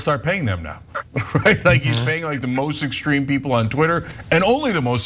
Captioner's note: laugh